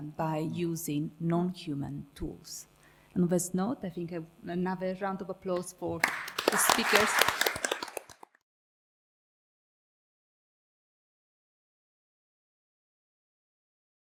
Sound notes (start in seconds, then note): 6.0 audience applauding